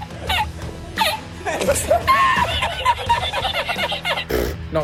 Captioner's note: man laughing loudly